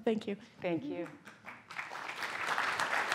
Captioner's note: applause